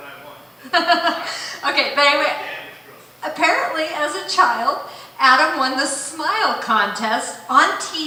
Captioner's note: chuckle